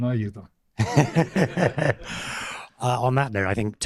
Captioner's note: laughter